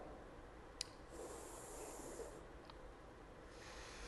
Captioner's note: inhales; exhales